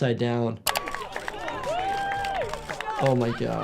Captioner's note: people shouting and clapping